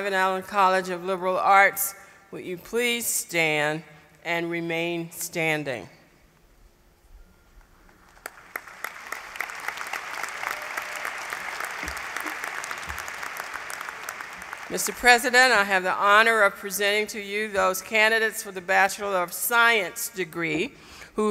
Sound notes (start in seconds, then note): 7.9 applause